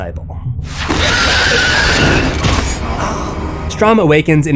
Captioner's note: pig squealing and screams